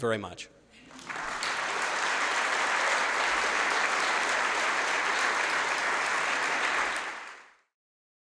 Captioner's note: audience applauding